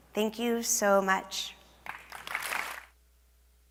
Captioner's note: applause